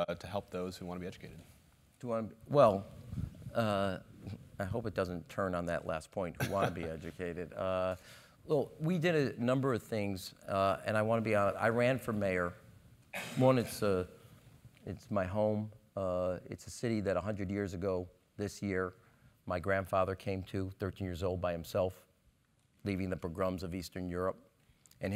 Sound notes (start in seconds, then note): 6.4 laugh